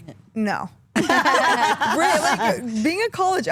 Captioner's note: all laugh